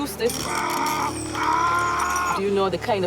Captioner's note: man screaming